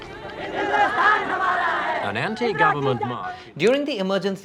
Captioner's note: chanting slogans